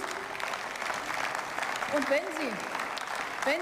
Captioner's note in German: Beifall